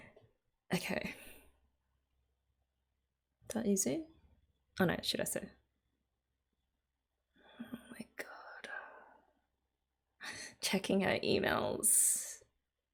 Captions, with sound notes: Okay. Is that Yuzu? Oh no, Shirase. [whispers] Oh my god... Checking her emails.